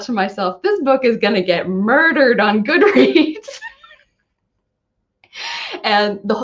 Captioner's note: laughing